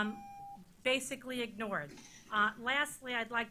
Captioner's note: beeping